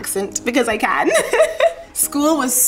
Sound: laughs

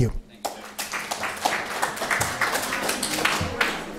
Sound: applause

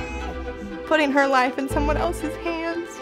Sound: baby crying

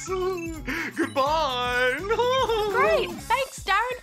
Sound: laughs

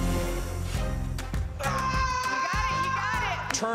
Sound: scream

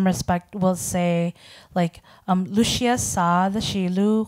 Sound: speaking in foreign language

